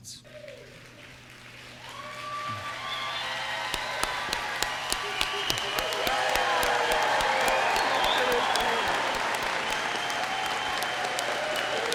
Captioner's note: cheers and applause